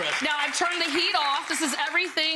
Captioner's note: crowd applause